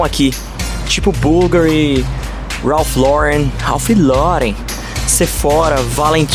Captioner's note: making Brazilian accent